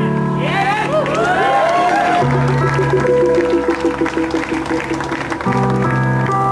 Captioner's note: audience applauds